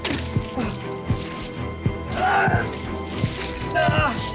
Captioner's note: blood splashing